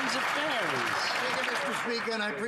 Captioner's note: some Applause